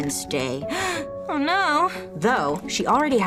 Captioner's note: gasping